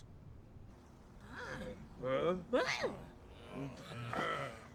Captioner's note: grunting thoughtfully